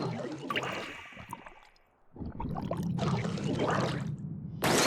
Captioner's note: cue ominous bubbling and gurgling from pent up rage